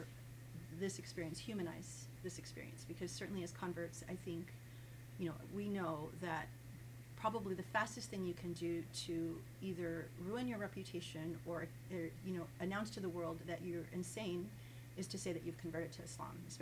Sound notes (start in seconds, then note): none